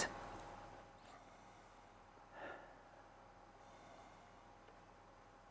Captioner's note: inhales and exhales deeply